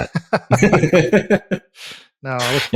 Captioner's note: laughing